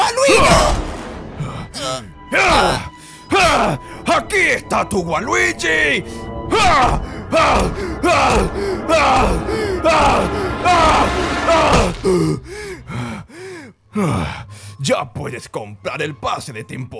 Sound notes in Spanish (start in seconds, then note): 6.5 sonidos de golpes eróticos cargados de ira